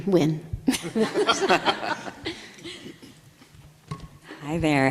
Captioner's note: everybody laughs